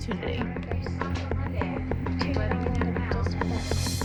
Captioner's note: chatter